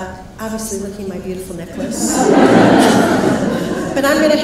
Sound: crowd laughs

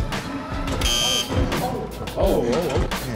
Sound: ball bouncing; buzzer beeping

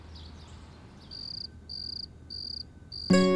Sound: crickets chirping; joyous music playing

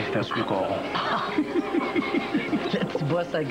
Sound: Rires

